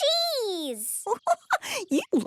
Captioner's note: giggling